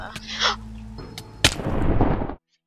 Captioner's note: dramatic gasp